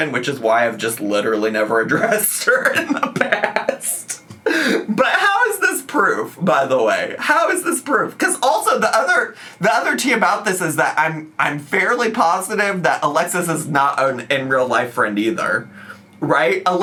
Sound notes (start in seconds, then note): 1.9 laughs